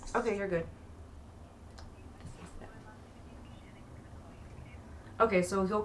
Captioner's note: whisper